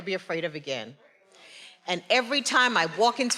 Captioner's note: faculty speaking faintly